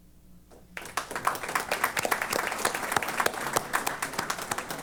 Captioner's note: applause